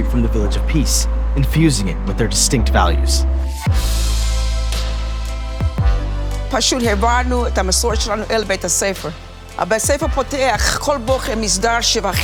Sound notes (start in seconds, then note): 3.9 gentle upbeat music; 6.7 speaking in foreign language